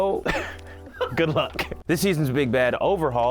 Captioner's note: laughs